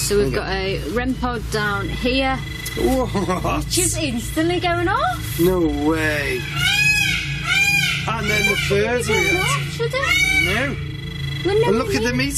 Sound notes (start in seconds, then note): 2.6 device beeps; 5.7 peacock squawks; 11.5 device beeps